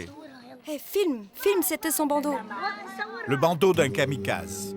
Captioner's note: Hebrew spoken audio